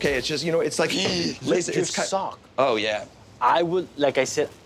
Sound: gasps

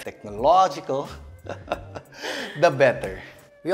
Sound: laughs

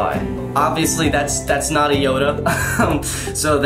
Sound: laughs

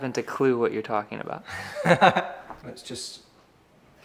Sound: laughter

